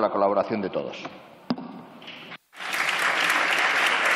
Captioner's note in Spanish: Aplausos